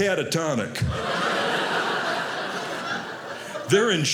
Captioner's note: audience laughing